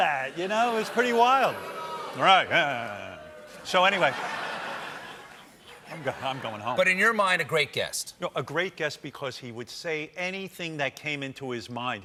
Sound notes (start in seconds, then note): 4.7 booing